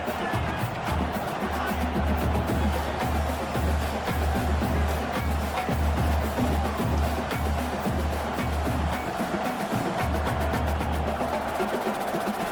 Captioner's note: crowd Noises